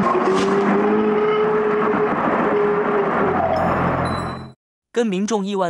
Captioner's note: A strange roar